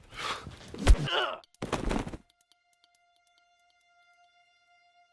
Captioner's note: Manuel grunts